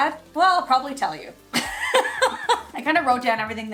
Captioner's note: laughs